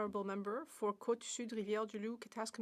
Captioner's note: speaking French